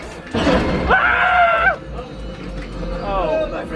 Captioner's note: everyone screaming